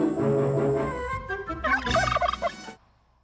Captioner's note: gobbling